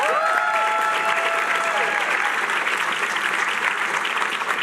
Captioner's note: cheering